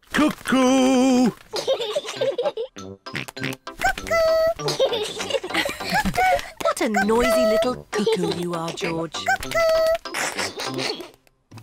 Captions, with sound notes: -"Cuckoo!" -(BOTH LAUGH) -(OINKS) Cuckoo! -(BOTH LAUGH) What a noisy little cuckoo you are, George. Cuckoo! (LAUGHS)